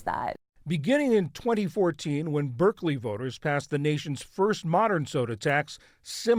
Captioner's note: voice-over